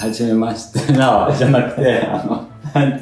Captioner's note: laughs